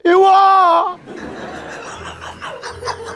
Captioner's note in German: Gelächter